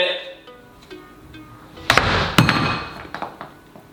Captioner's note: door thuds